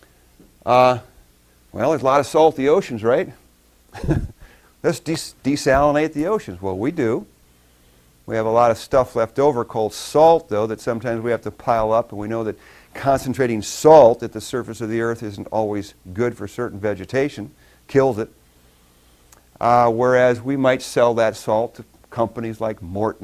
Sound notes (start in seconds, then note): 3.9 laughs